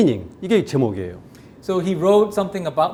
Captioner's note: speaking in Korean